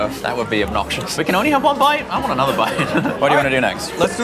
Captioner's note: laughs